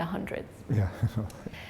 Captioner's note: chuckle